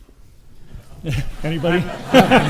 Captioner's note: audience laughs